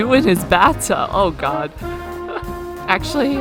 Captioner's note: laughs